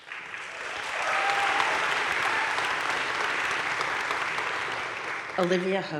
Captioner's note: crowd cheering and applauding